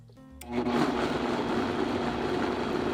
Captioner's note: blender running